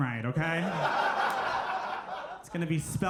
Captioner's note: audience laughing